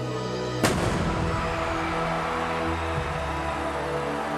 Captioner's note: fireworks bang